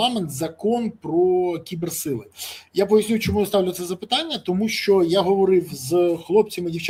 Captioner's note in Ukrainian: сопіння